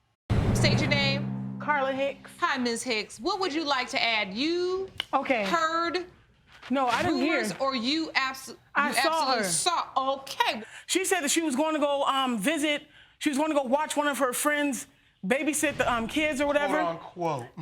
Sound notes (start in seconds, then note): none